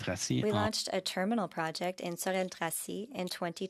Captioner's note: speaking French